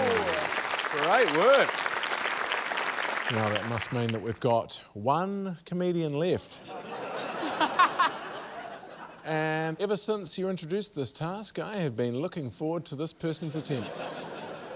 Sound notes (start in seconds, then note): 0.0 applause; 6.6 laughter